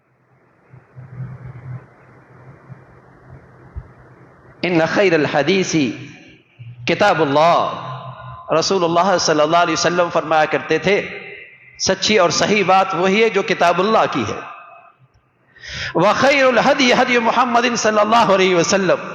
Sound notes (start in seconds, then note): 15.6 sigh